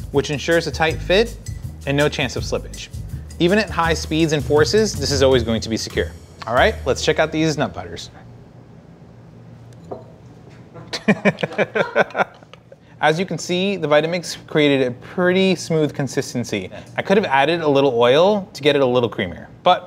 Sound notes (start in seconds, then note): 10.8 laughing